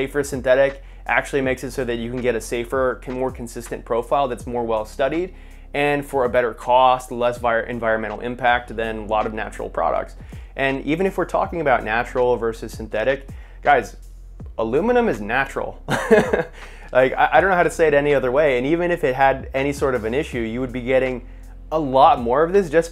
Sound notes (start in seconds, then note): 15.8 laughing